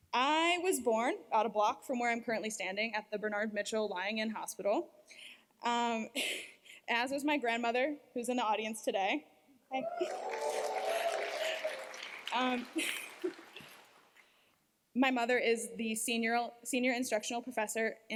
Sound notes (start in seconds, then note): 9.7 cheers, applause